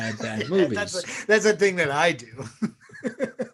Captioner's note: laughs